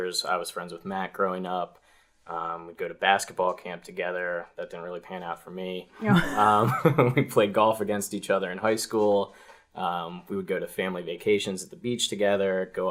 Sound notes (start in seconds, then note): 6.0 laughs